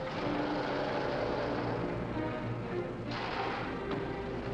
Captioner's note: engine rumbling